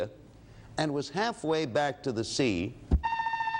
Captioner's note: alarm sounds